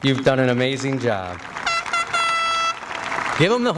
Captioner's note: applause and air horn